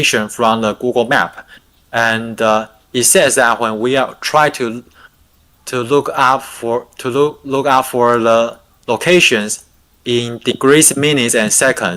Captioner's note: non-english speech